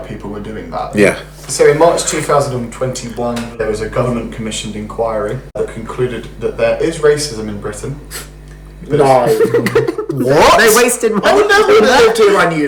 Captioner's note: laughs